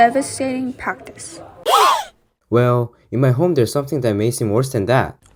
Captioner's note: gasp